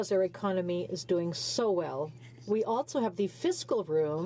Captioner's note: speaking French